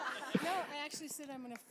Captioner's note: laughter